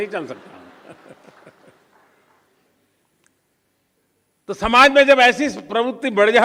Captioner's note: applause